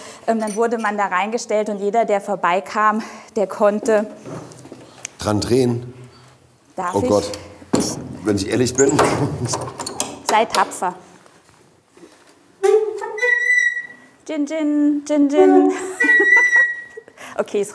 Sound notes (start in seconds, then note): 12.6 squeak